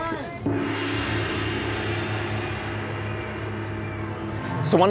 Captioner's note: gong clashes